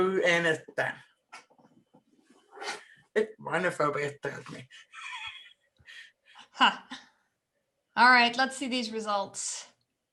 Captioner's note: laughs